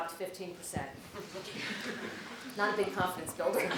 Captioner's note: laugh